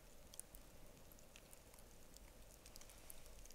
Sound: fire crackling

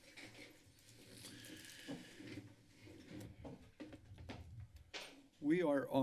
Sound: rustling sound

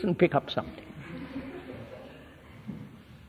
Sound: laughter

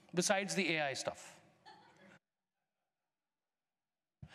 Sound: laughter

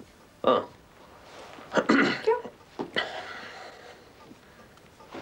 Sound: clears throat

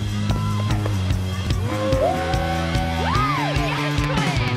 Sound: crowd cheering

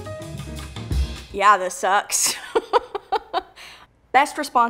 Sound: laughs

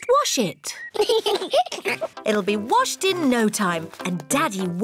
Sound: both giggle

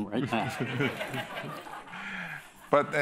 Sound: laughter

